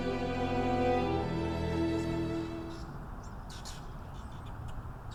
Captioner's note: birds chirping